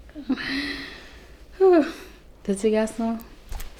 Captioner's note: exhales